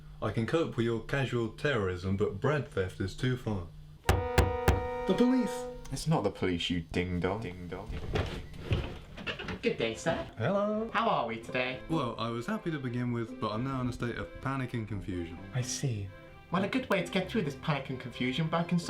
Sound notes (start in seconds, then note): 4.1 knocking; 7.4 echoing